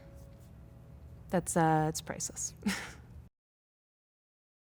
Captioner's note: chuckling